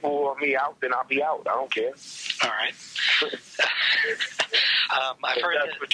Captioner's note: laughs